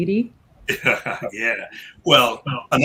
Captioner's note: chuckle